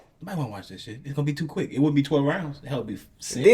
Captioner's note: none